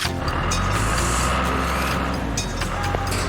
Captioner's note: engine Running